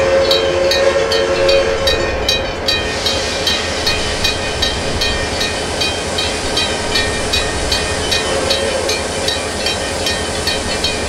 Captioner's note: PRR K4s whistle